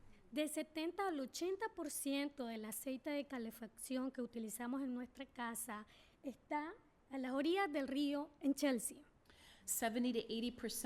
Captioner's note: speaking spanish